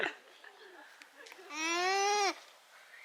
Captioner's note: alpaca whines